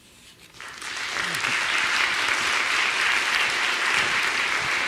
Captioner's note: audience applauds